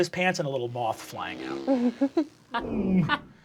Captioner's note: wings buzzing; laughing; growling